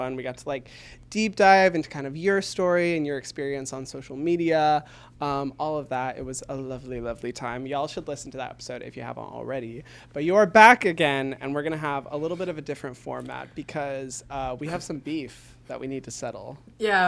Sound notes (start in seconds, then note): none